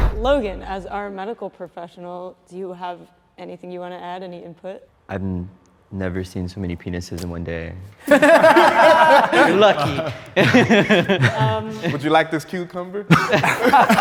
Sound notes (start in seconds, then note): 8.0 group laughs; 11.1 laughs; 13.1 group laughs